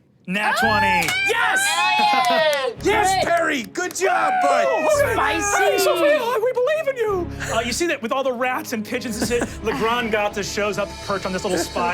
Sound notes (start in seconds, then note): 0.6 everyone cheering